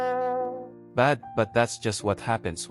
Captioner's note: disappointed trumpet sound